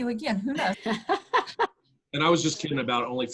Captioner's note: laughs